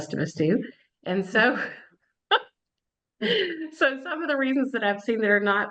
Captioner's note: laughs